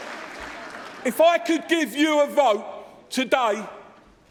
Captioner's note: cheering and applause